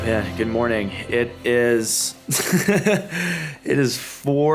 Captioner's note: laughing